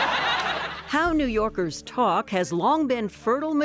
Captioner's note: laughter